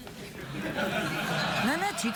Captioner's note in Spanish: risas